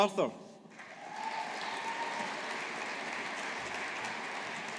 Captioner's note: audience applauding